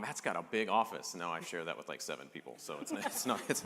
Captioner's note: laughter